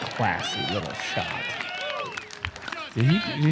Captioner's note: cheering